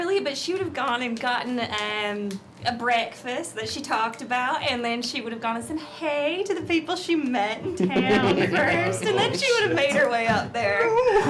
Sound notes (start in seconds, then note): 7.6 laughs